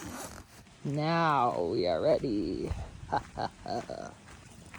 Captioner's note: laughs